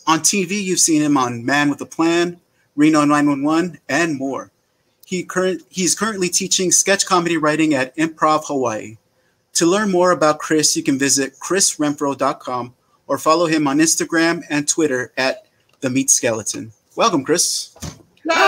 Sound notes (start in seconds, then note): none